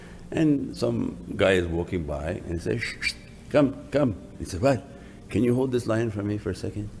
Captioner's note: whistles